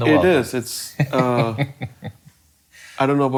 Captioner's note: laughing